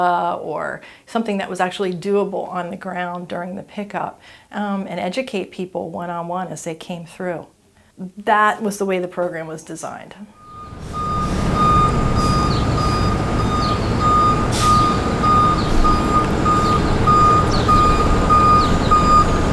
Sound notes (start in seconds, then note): 10.3 truck beeping in distance